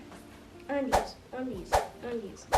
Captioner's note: air whooshing